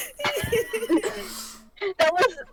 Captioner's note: laughter